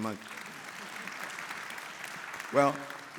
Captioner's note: audience applauding